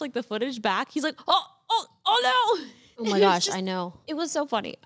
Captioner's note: laughs